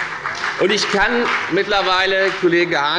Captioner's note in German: Beifall bei der FDP